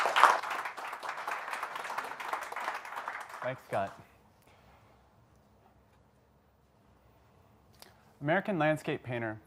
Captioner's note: applause